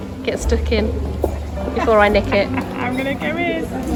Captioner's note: laughs